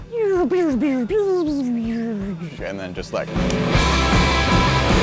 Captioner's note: lazer sounds